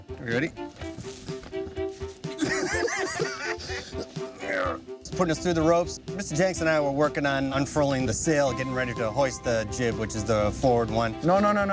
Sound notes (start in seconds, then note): 2.3 laughing; 4.4 grunting